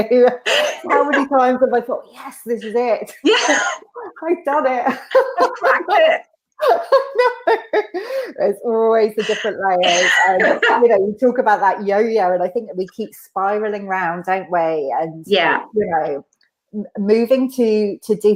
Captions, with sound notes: How many times have I thought yet this is it. I've done it. - I cracked it. (laughs) - There's always the different layers and you know, you talk about that yo-yo and I think we keep spiraling round that way and moving to different levels